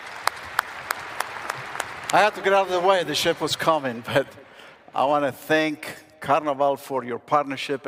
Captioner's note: applause